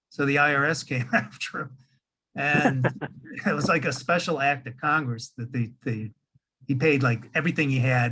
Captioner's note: laughing